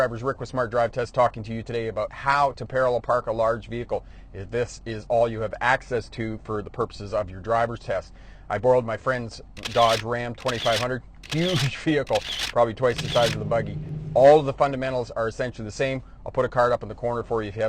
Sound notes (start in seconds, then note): 9.6 camera clicks